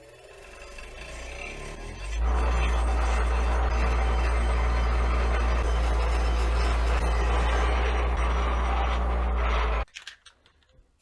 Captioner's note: grinding noise